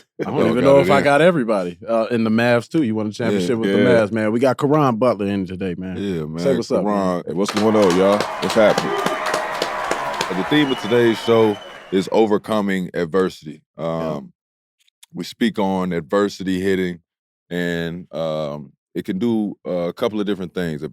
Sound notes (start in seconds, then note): 7.4 audience applauds